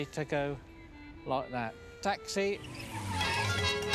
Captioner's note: screeching